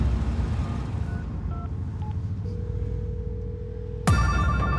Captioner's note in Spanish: suena el celular